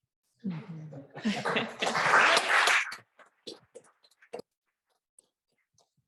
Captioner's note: applause